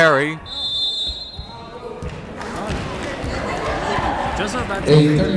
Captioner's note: whistle blowing